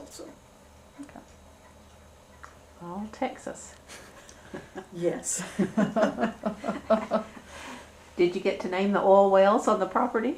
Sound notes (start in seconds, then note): 5.4 laughter